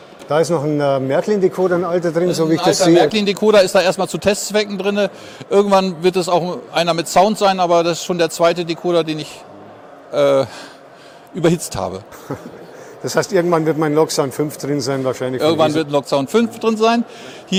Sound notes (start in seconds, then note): 12.1 laughter